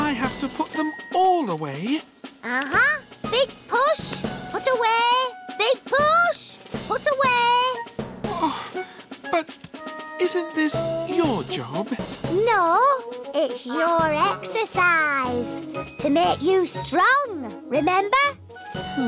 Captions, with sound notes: And I have to put them all away? Uh-huh. Big push, put away. Big push, put away. (sighs) But isn't this your job? No, it's your exercise. To make you strong. Remember?